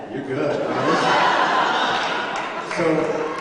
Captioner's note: laughter